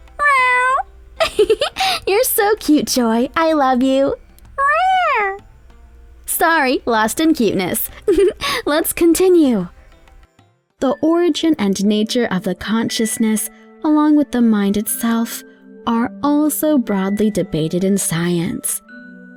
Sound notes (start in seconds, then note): 0.1 Joy meows; 1.2 giggles; 4.5 Joy meows; 8.0 giggles